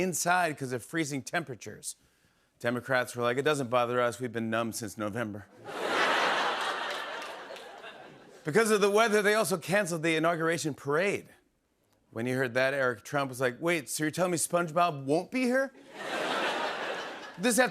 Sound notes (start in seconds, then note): 5.6 laughter; 15.8 laughter